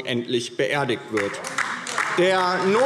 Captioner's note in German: Beifall DIE LINKE